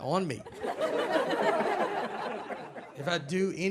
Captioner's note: audience laughs